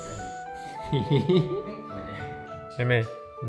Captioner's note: giggles